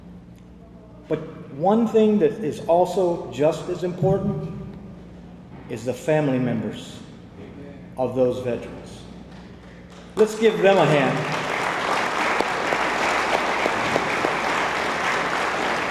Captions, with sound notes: but one thing that is also just as important is the family members of those veterans. Let's give them a hand. (attendees applaud)